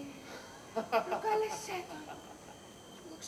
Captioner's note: γέλιο του